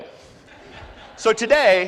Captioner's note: laughs